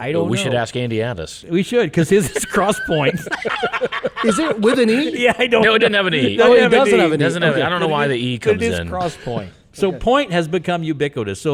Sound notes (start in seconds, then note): 3.2 people laughing